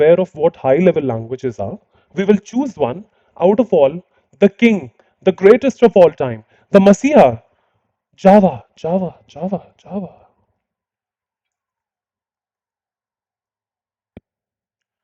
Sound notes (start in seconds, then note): 9.6 echoing